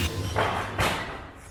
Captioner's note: crash